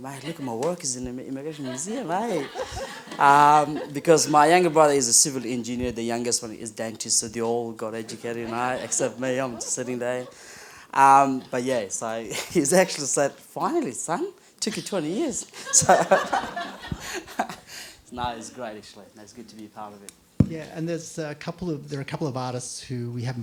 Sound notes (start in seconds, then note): 14.8 laughter